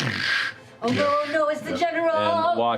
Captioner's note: heavy footfalls